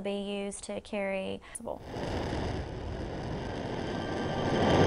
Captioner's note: sound of rocket launching